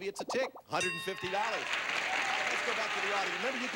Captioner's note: audience applauding